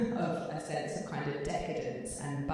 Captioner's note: laughing